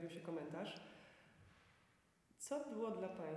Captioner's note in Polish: cisza